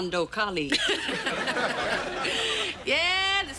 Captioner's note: laughing